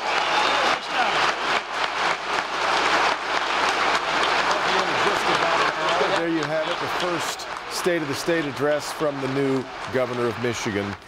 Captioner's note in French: applause